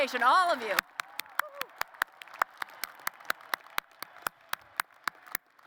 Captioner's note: applause